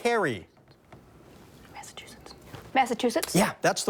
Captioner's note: whispers